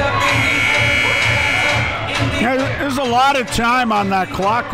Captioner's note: buzzer rings